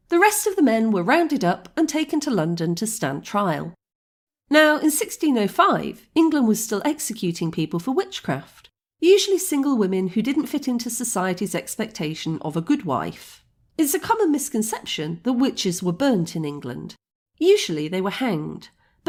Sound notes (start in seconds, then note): none